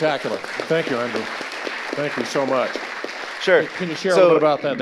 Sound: audience applauding

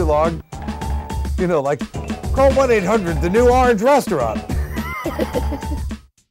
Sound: laughs

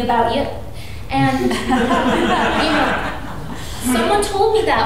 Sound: audience laughing

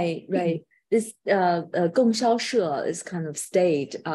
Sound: speaking in foreign language

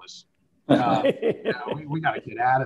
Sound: laughing

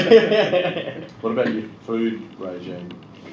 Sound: laughter

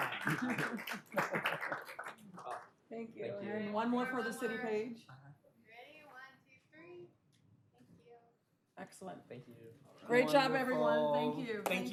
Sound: applause

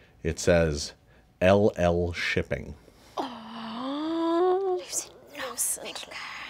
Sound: players gasp

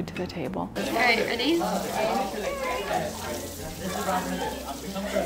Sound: classroom chatter

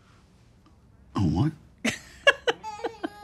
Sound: Roxanne laughs; baby crying

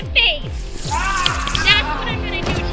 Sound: man screams in agony

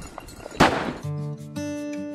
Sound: gun shot; soft music

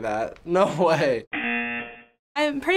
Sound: buzzer

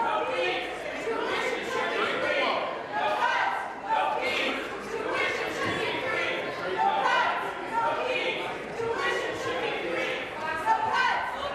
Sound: chanting

